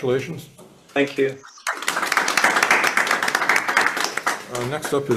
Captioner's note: hands clapping